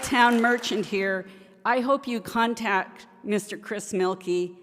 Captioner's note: applause